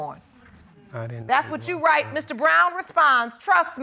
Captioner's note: quietly